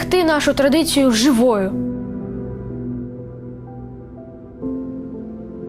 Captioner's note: speaking in foreign language; gentle music